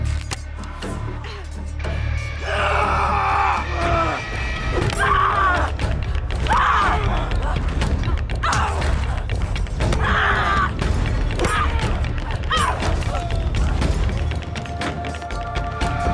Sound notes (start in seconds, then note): 2.5 shouting; 4.6 dramatic music; 5.4 both shouting; 9.7 dramatic music